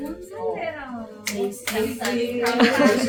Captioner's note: Chanting “James! James!” with excitement